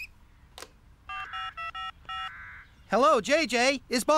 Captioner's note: phone Buttons Beep